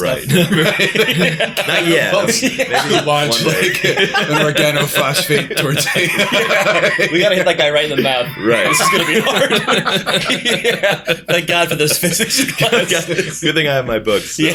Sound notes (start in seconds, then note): 6.2 laughter; 12.6 laughter